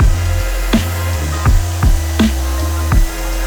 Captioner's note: spraying; calm music